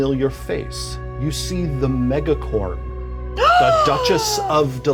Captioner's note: Evelyn gasps